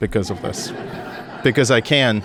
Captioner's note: audience laughing